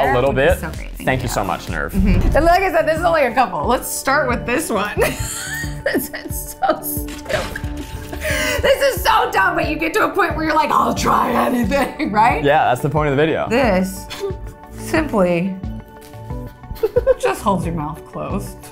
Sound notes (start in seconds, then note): 5.0 laughing